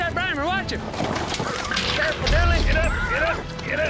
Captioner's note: horse neighs